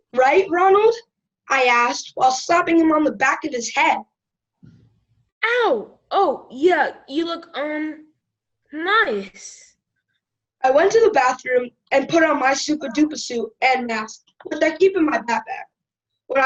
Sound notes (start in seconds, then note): none